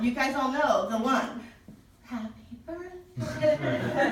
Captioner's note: singing whisper